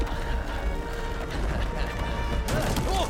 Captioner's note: laughs